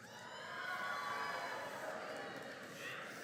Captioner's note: cheering